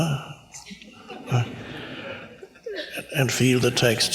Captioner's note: audience laughs